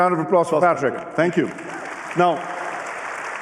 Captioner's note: applause